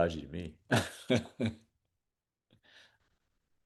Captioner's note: chuckles